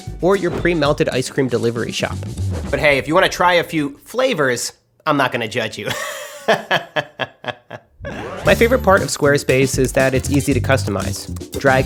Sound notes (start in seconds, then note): 5.9 laughs